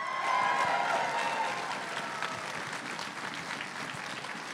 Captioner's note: crowd cheering and applauding